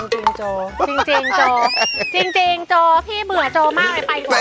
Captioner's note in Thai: หัวเราะ